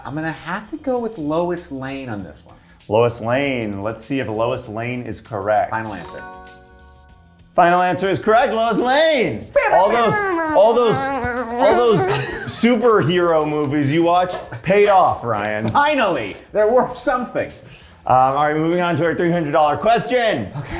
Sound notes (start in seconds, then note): 6.5 bell dinging; 9.6 singing